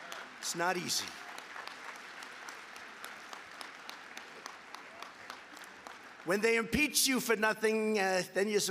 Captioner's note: applause